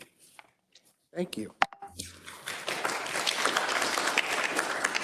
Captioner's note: attendees applauding